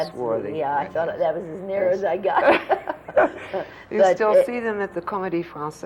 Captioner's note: laughter